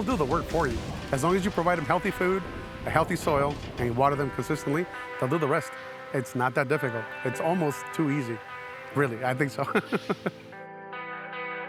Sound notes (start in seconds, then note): 9.6 chuckles